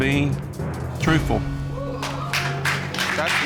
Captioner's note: audience cheers